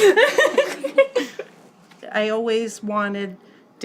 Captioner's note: laughs